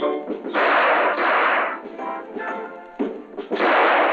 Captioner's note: gunshots